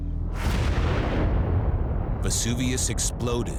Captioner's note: eruption echoes